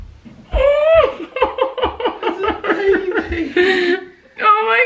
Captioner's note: person crying